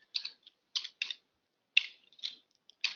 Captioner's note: typing